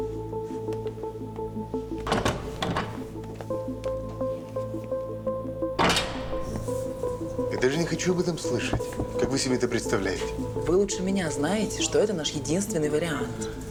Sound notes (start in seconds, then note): 0.9 doors opening and closing